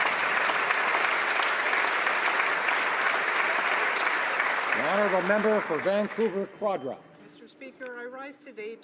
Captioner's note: applause